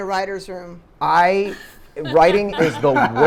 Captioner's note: panelists laughing